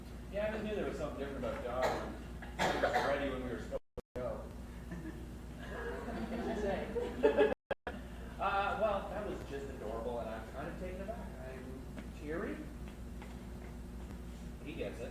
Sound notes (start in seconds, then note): 5.6 crowd laughs